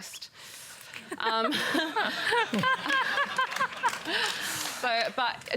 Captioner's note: laughter, scattered applause